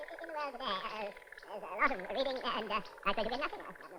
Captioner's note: tape fast forwarding